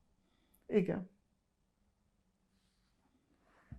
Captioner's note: pauses 6 seconds